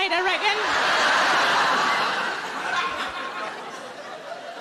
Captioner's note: audience laughing